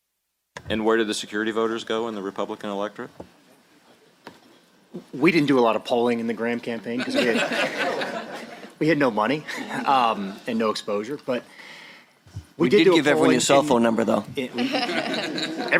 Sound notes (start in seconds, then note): 7.0 laughter